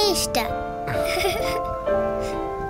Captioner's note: both giggles